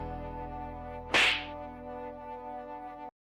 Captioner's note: smack